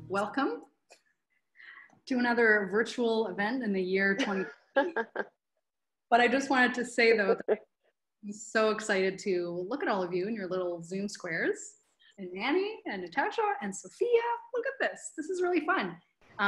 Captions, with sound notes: - Welcome to another virtual event in the year 2020. (laughs) But I just wanted to say, though, so excited to-- Look at all of you and your little Zoom squares Annie, Natasha and Sophia, look at this, this is really fun!